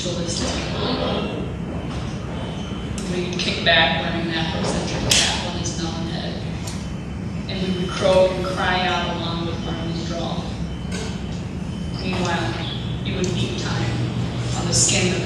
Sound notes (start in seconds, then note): none